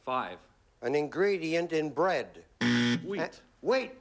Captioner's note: buzzer